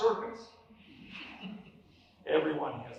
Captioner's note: laughter